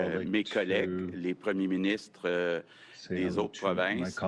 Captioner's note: speaks French